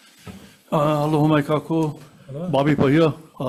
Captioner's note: speaking in foreign language